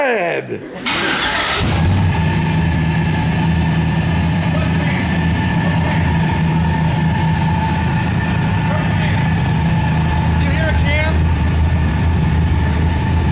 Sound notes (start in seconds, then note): 2.6 engine starting